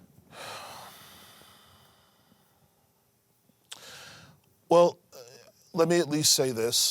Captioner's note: sighs deeply